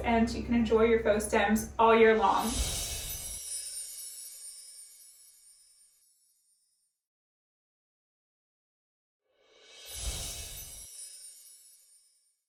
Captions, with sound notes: and you can enjoy your faux stems all year long. [chimes ringing] [chimes ringing]